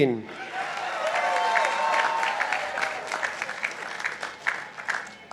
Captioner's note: participants applauding